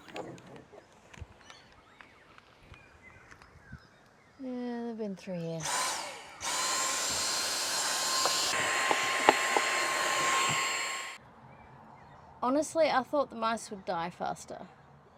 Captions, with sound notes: Yeah, they've been through here. [vacuum starts again] Honestly, I thought the mice would die faster.